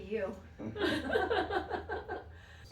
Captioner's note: laughter